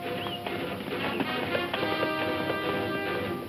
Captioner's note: hooves thumping